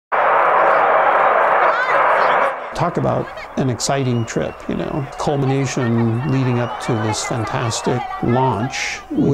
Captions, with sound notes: [Sound of blastoff] [Sound of blastoff] Talk about an exciting trip, the culmination leading up to this fantastic launch